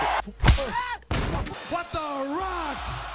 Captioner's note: man screams